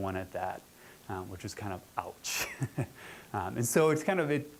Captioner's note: chuckling